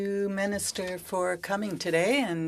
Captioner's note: speaking French